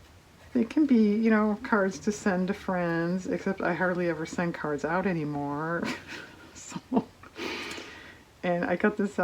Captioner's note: laughs